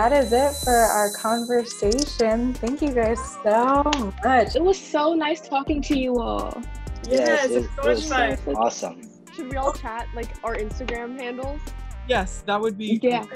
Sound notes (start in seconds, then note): 0.0 upbeat gentle music; 3.7 hands clapping